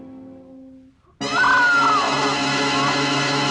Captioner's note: Barbra screams